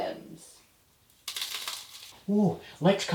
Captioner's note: cigar crunching